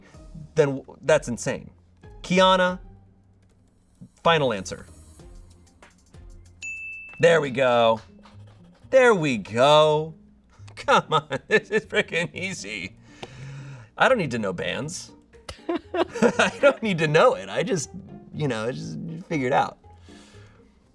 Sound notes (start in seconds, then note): 6.6 bell dings; 15.5 laughs